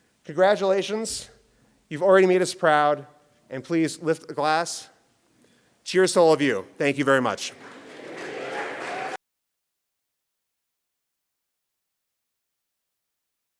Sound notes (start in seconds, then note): 7.4 applause